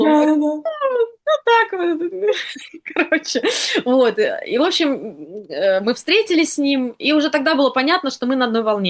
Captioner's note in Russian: смех